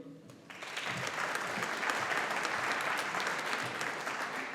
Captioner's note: audience applauding